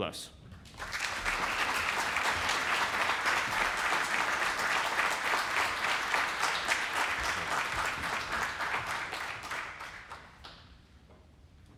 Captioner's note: applause